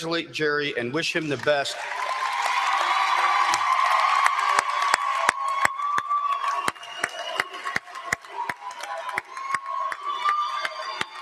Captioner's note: applause